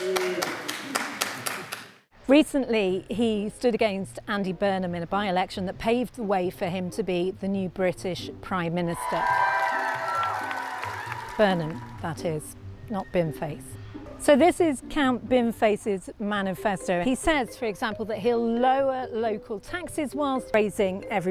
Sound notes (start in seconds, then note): 0.0 applause; 9.0 cheers and Applause